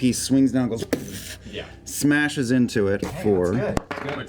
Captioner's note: impact sound